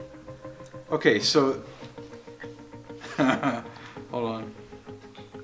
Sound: laughs

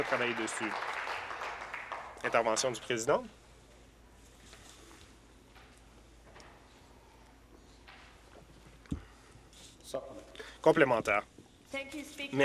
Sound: applause

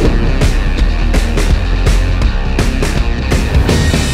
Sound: lightning strikes; fast rhythmic rock music

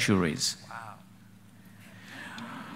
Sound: laughter

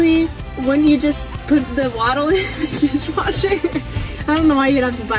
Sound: laughs

